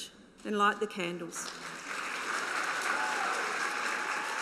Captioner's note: applause